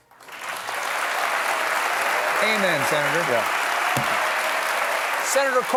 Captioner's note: applause